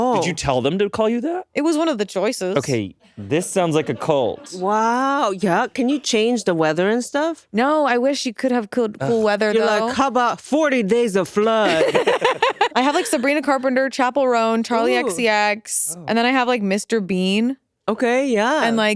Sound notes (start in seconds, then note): 11.6 laughing